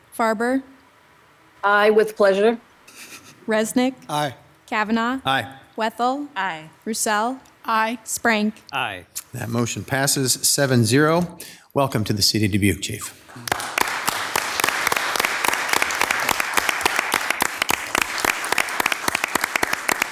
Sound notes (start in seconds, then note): 13.2 group applauds; 13.8 claps